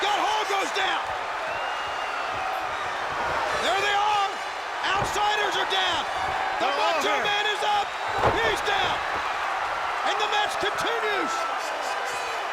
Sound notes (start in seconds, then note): 2.0 audience cheering; 7.6 body thudding